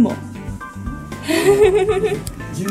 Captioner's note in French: rires